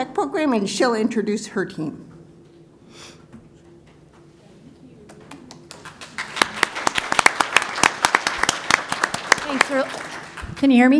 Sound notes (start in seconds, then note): 5.1 applause